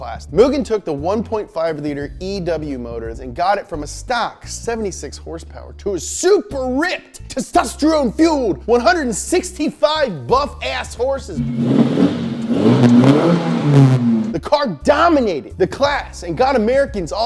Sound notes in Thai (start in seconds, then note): 11.3 การเร่งเครื่องยนต์